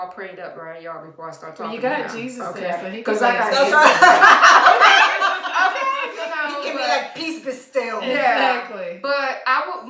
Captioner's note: laughter